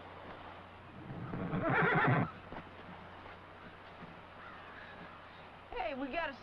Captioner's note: horse whinnying